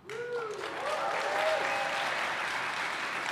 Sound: applause

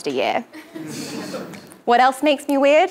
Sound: laugh

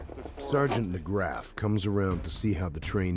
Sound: voiceover

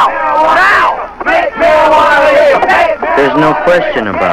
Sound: young people chanting

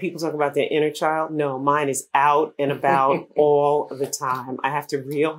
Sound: laughter

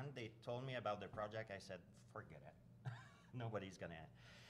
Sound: chuckles

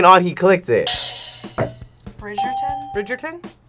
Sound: bell rings

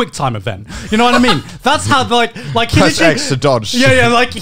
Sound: laughing

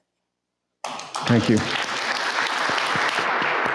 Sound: audience clapping

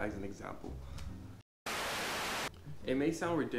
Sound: tv static

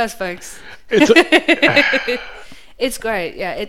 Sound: laughs; sighs

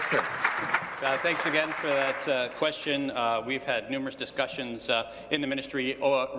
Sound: applause

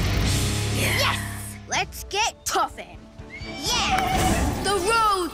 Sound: horse neighs

